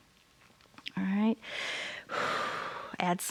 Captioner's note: inhales and exhales